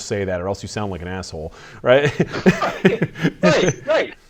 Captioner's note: laughs